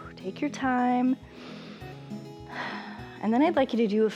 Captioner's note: inhales and exhales